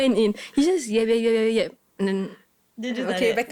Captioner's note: talked continuously